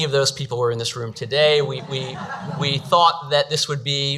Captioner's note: audience laughs